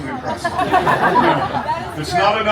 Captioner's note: guests laughing